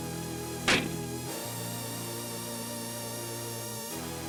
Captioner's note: door slams